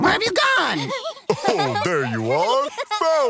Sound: laughter

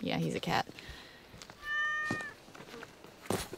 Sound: meows

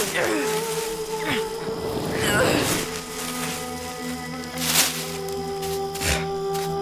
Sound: grunting, leaves rustling

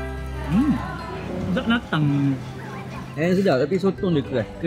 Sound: laugh

